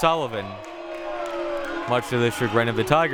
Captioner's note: audience booing